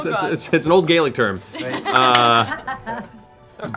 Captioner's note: laughter